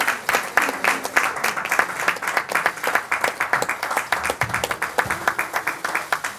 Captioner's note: applause continue